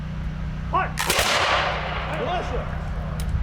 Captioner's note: rifles fire